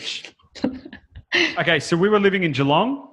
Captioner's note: laughs